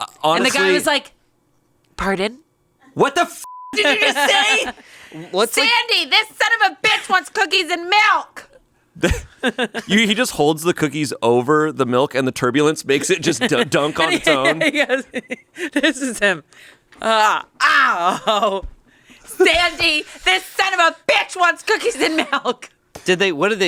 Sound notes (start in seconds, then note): 3.4 beep; 13.4 laughs